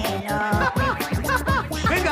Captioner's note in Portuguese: Risos